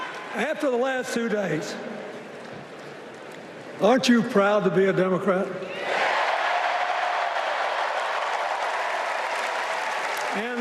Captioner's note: cheers and applause